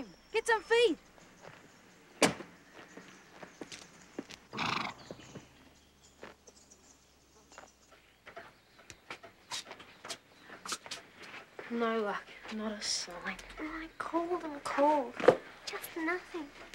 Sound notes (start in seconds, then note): 2.1 car door slams; 4.5 Sam snorts